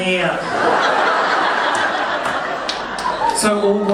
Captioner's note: audience laughing